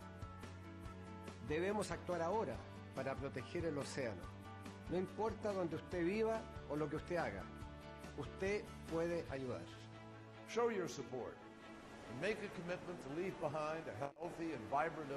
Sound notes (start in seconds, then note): 13.3 in Spanish